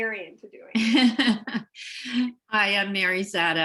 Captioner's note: laughter